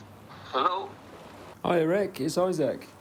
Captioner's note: on phone